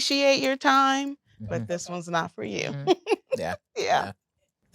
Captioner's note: laughing